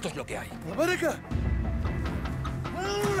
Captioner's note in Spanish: Voz en otro idioma